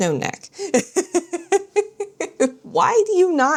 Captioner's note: laughs